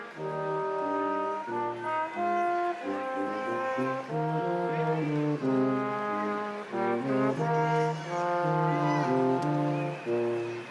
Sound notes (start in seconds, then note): 2.9 crowd applauding; 2.9 instrumental music continues